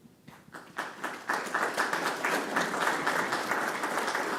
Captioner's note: audience applause